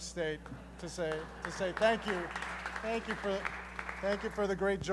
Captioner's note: applause